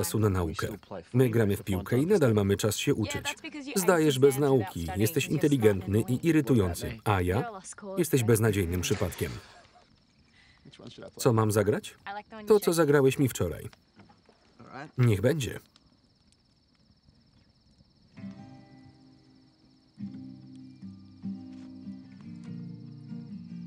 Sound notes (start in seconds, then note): 9.3 laughter; 18.1 placid guitar music